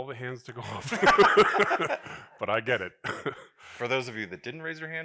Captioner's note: laughs